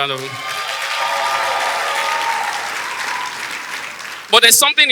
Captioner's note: audience applause